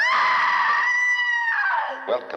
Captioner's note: screaming